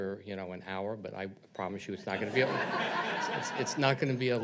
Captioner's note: audience laughs